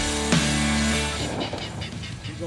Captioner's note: metal shaking